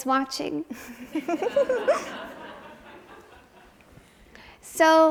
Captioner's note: audience laughs